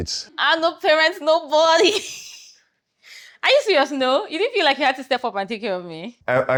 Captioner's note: laughs